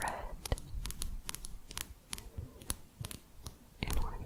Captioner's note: quick tapping